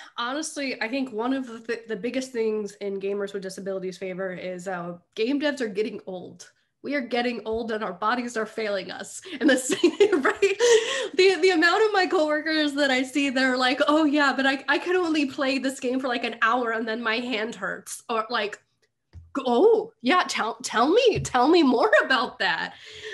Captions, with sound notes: - Honestly, I think one of the biggest things in gamers with disabilities favor is a game debts are getting old. We are getting old and our bodies are failing us. And the same (laughing) the amount of my coworkers that I see they're like Oh yeah but I could only play this game for like an hour. And then my hand hurts or like, Oh yeah, tell me more about that.